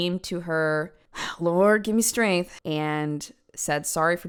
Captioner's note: sigh